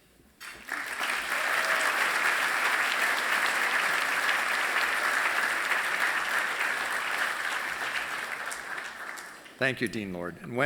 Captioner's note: applause